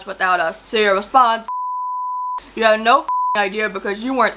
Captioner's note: beep